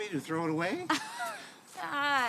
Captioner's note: Cassie laughs